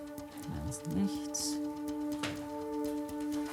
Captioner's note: speaks in German